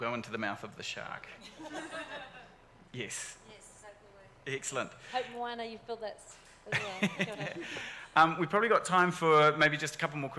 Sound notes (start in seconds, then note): 1.5 audience laughs